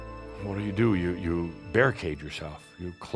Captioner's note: none